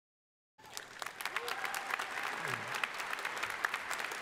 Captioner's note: crowd applauding